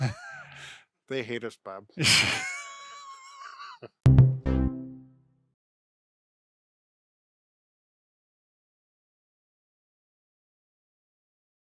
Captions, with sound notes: - They hate us, Bob. (both laughing) (bright music)